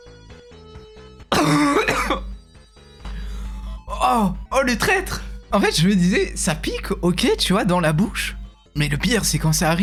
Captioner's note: cough